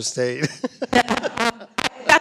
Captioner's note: audio cutting out; laughing